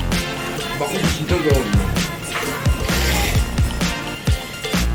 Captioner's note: slurping again